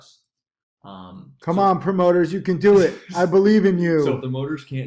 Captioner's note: laughs